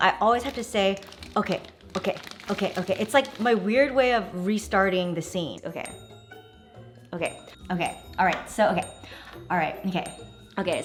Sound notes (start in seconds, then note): 6.0 okay bell dings